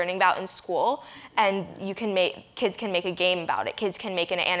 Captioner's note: none